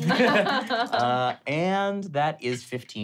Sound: laughing

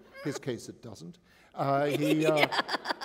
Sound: laughter

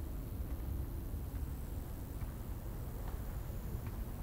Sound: hiss of the desert

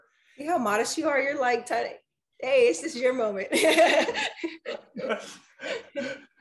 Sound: laughs

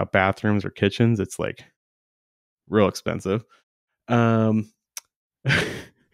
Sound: chuckles

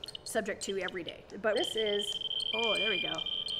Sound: rapid high-pitched beeping

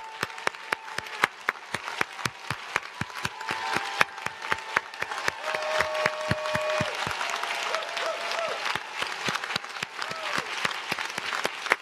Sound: cheers and applause

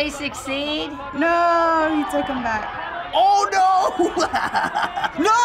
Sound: laughs

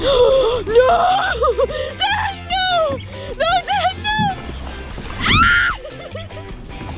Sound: screams

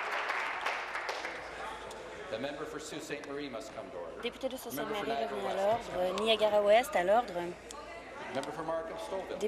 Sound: applause

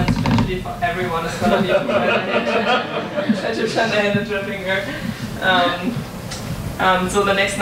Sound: audience laughs

